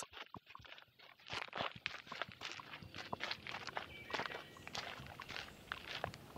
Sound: footsteps crunching on gravel

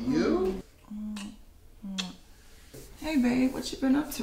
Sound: lips smacking

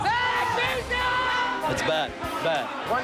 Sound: shouting

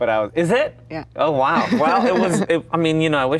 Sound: Gal laughs

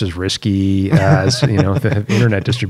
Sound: laughter

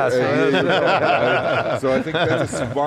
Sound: laughing

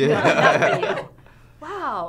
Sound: laughter

